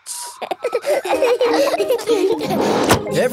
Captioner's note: all laughing